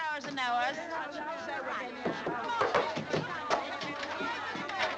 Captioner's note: people chattering